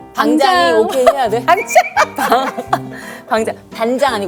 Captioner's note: laughs at the old-school term